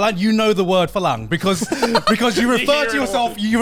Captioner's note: hosts laugh